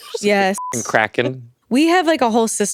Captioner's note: beep